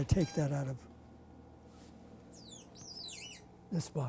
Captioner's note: pauses for 3 seconds